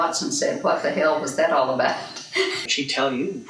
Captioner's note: laughs